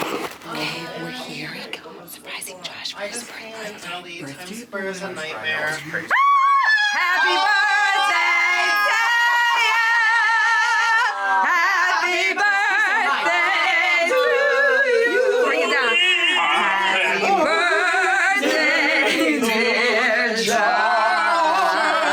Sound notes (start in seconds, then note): 0.2 whispers; 6.1 group screaming